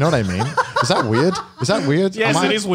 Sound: laughs

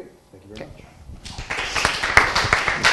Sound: applause

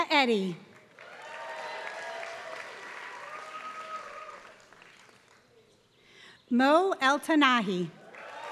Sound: applause; applause

